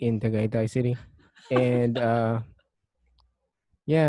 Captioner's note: laughs